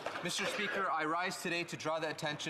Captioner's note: applause